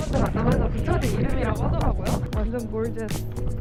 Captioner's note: wind rushing like a storm